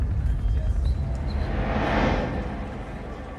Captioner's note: hospital noise, chattering